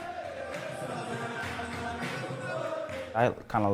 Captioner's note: chanting